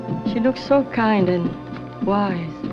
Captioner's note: none